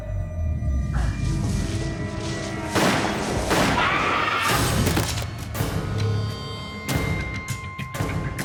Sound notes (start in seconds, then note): 2.7 gunshots; 3.6 scream; 4.9 crash